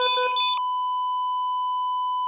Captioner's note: keyboard keys clacking